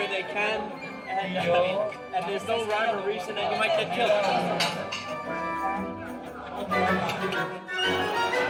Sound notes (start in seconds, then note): 1.7 shouting in Italian